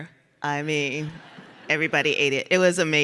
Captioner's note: audience laughs